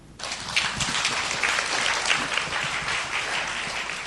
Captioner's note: audience applause